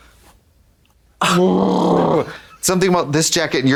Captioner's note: Trixie shudders